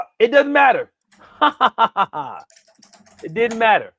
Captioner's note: laughs